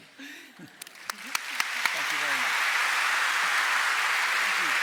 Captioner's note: applause